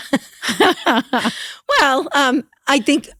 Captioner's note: laughter